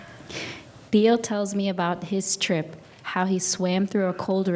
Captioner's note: speaking in a foreign language